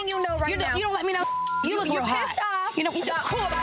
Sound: beep

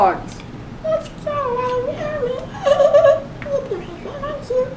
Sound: giggle

